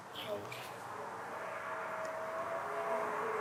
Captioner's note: howling & traffic noise